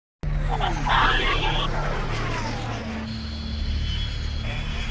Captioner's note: airplane engine roaring